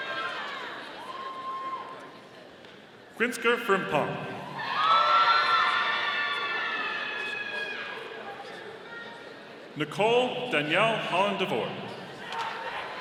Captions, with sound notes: Quinsker Frimpong. (audience cheering) Nicole Danielle Holland-DeVore.